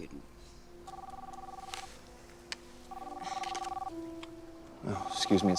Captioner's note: phone ringing